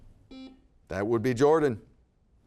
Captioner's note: buzzer beeping